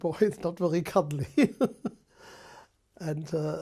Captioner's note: laughs